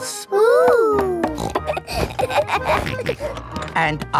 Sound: snorts, laughs

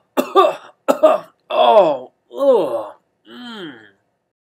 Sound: cough cough cough

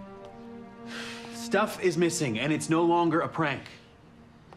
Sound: sighs

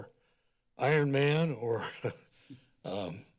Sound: laughs

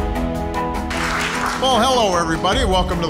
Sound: applause

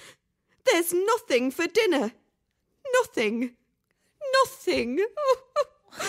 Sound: bursts into tears

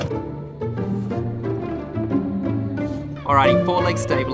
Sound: knife slicing

